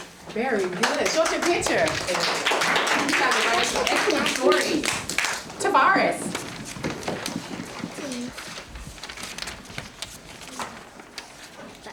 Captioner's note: applause